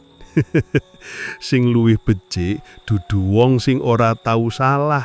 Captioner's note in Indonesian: tertawa